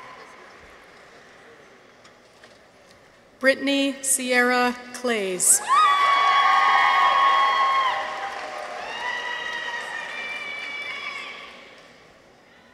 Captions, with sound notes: Brittany Sierra Clays. -(people cheer) -(audience applauds)